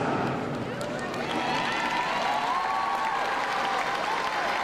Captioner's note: crowd cheering